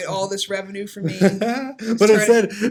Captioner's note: laughing